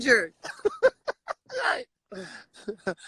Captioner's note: laughs